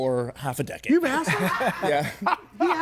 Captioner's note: person laughs